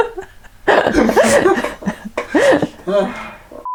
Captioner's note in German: Lachen